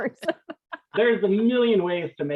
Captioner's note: all laughs